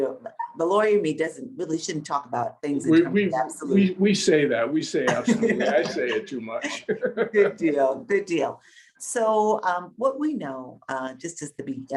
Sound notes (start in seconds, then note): 5.0 laughing; 7.7 laughing